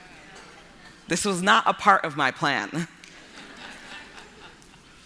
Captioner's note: laughter